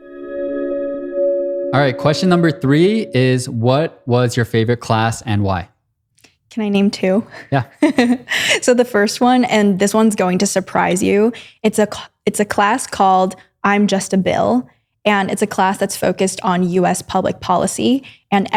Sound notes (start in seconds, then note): 8.2 laughs